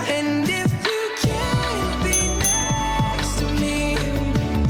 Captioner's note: ding ding!